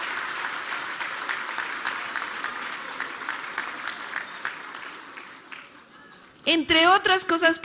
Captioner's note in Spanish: aplausos